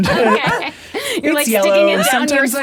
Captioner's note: all laughing